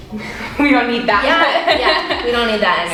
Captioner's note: giggles